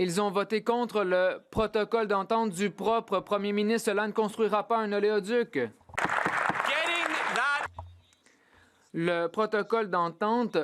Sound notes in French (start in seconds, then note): 0.0 applaudissements; 2.9 voix de l'interprète